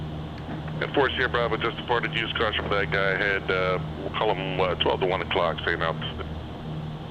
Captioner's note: radio